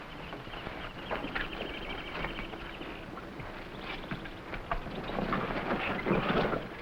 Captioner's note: birds chirping; animals chattering